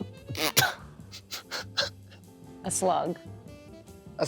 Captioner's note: laughs